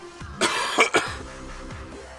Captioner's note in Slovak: kašeľ